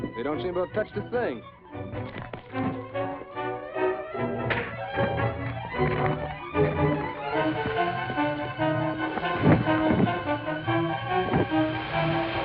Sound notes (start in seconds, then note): 1.8 dramatic music; 4.5 punch slams; 7.4 fuse fizzing; 8.7 body thuds